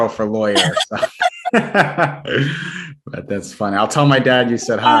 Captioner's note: laughter